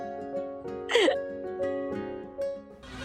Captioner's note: chuckling